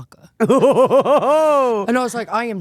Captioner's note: laughing